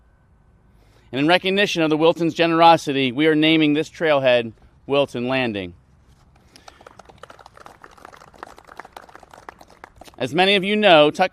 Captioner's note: applause